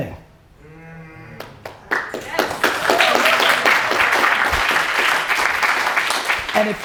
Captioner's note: audience cheers and applause